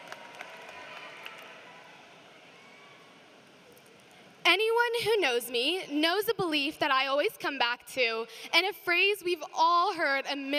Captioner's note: applause